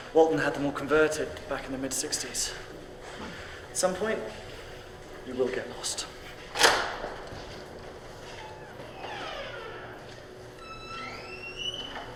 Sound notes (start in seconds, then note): 8.2 door creaking